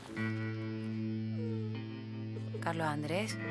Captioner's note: whimpering